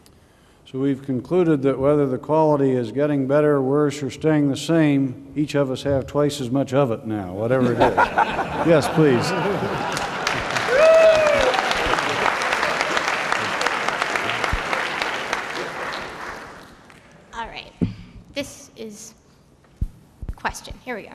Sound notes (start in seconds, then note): 9.5 applause